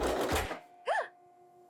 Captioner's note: gasps Loudly